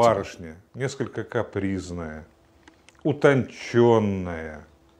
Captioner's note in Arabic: الصوت المنطوق بالروسية